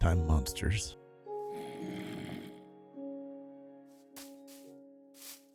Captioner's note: groaning